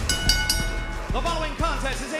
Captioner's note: bell ringing